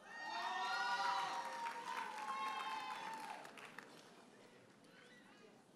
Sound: audience hollers and applauds

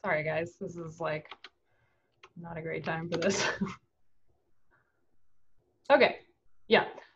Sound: chuckles

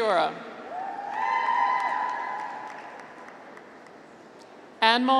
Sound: graduates cheer

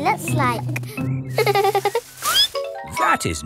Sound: peppa giggles; squeaks

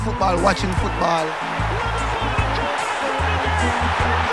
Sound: crowd cheering

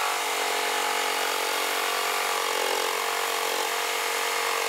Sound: buzzing, rattling

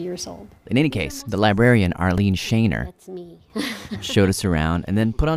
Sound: laughs

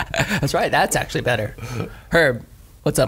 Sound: scattered laughs

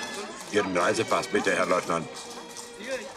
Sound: in German

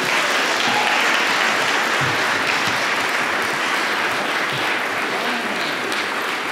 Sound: applause

